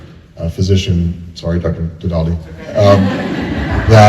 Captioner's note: laughter